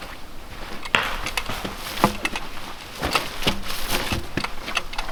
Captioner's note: padding thumping